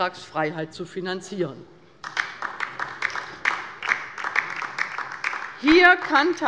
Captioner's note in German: Beifall bei der LINKEN